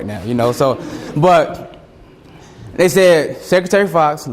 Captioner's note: students chuckle